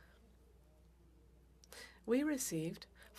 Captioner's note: speaking French